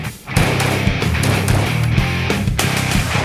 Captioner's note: gun bangs